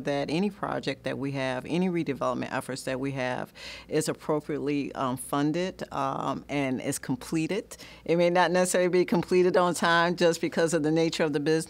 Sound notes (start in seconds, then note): none